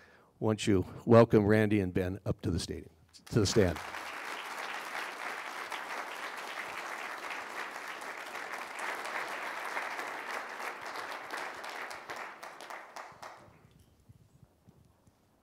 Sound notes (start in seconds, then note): 4.0 applause